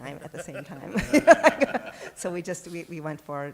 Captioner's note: laughter